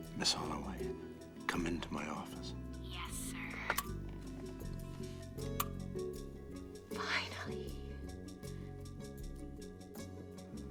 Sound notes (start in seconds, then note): 7.0 whispers